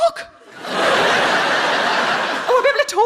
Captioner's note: audience laughing